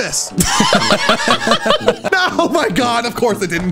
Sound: both laughing

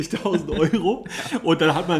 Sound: laughs

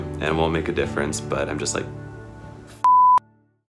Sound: beep

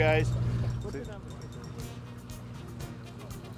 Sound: indistinct chatter

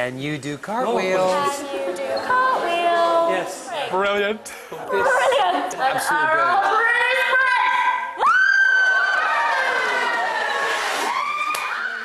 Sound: screaming

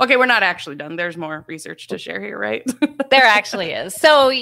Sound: laughs

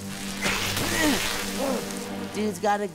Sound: grunting

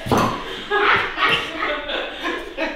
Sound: supportive laughter

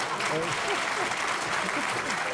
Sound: laughter

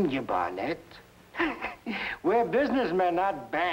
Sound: Malamos chuckling

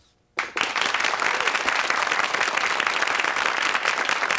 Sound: audience applauding

